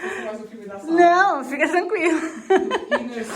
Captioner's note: laughs